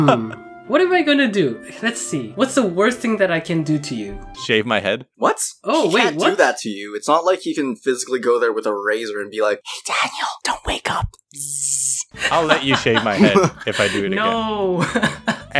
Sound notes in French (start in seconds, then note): 9.9 chuchote; 12.2 rigole